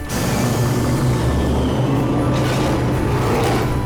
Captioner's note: loud growling